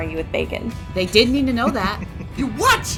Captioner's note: Mathis chuckling